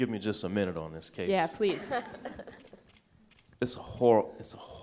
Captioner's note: laughs